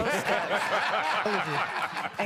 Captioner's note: laughter